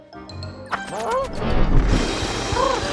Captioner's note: Mrs. Hud scoffs; pigeon yelps